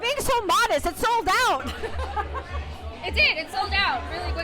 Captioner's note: laughs